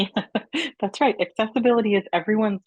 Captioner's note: affirming giggle